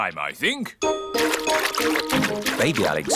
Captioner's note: splashing